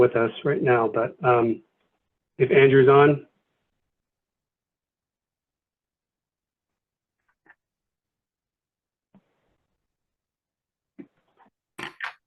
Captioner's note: pause